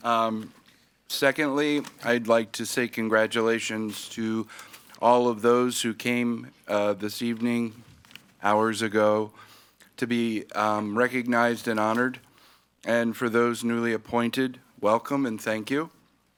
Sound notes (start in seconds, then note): none